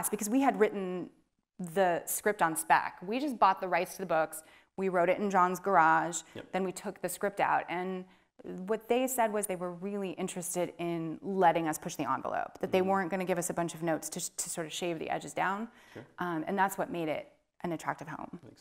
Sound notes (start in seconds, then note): none